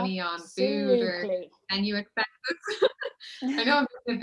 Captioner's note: speaking faintly